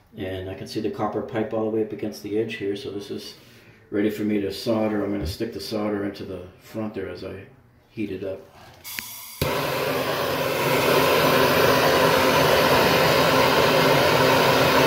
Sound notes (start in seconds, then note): 8.8 welding torch blows